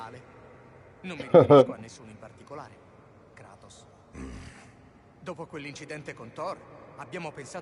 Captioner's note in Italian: schiarire la voce